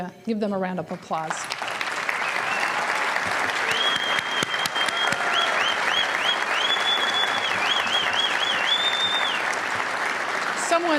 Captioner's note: applause